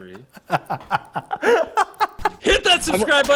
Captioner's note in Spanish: risas